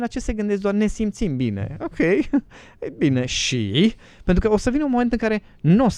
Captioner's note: laughter